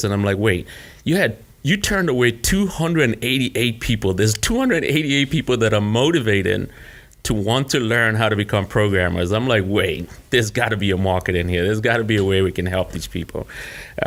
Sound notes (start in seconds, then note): none